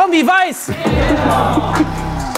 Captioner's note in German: Jubel, Applaus